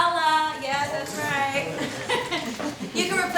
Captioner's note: laughs